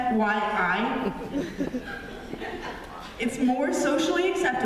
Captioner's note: laughter